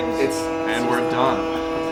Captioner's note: loud buzzing